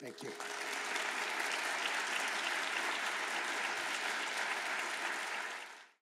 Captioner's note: applause